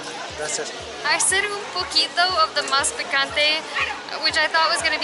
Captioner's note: speaking Spanish